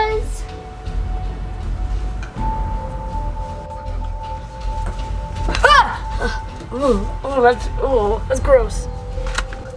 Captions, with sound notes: (screams) - Ew, that's gross.